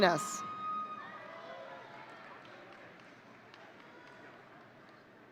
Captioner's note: audience cheering